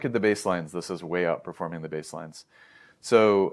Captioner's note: inhales